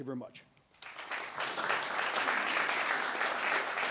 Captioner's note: applause